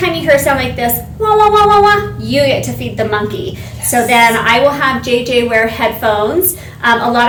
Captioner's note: warbled sound